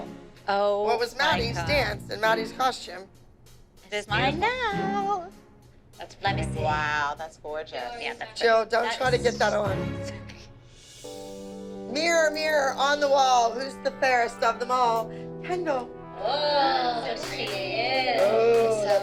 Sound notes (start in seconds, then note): 5.2 singsong; 16.2 oohs and aahs